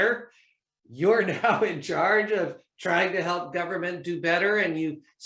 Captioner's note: laughter